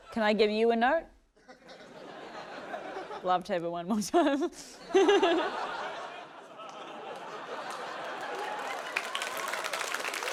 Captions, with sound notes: - Can I give you a note? Love to have it one more time. (CHUCKLES) (LAUGHTER) (APPLAUSE)